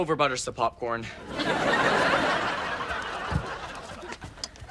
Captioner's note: audience laughs